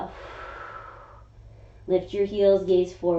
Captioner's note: inhaling; exhaling